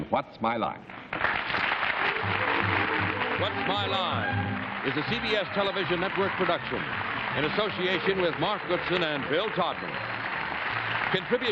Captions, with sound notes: with us on "What's My Line?" [applause] [upbeat music] "What's My Line?" is a CBS Television Network production, in association with Mark Goodson and Bill Todman.